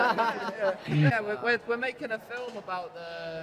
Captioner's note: laughing